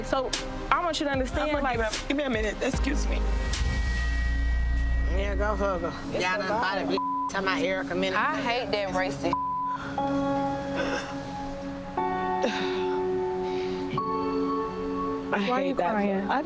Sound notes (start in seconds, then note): 7.0 beep; 10.2 beep; 10.6 heartfelt music